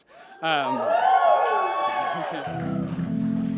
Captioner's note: audience cheers